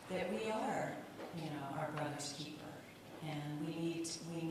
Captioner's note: none